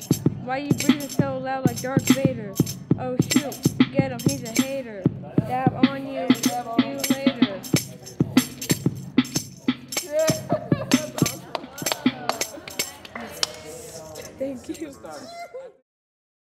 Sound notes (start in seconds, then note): 7.6 drum machine beat; 10.1 crowd cheers